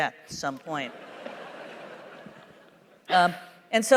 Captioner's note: laughter